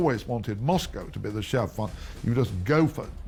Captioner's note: speaking in foreign language